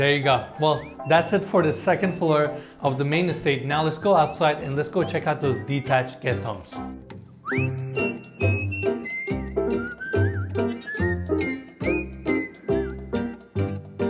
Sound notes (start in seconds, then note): 7.3 whistling; 7.5 drum music